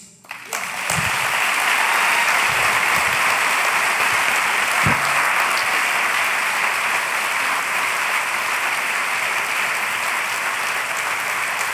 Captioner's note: applause